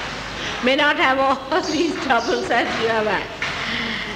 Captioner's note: laughing